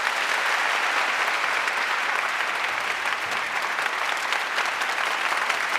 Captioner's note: audience applauding